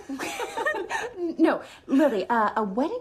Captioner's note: laughing